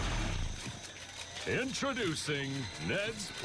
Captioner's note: camera shutter sfx